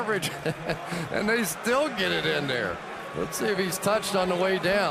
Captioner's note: laughs